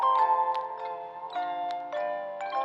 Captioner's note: none